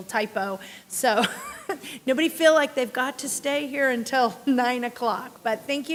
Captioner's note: chuckle